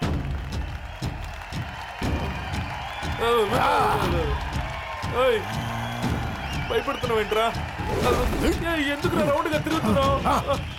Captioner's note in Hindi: तालियाँ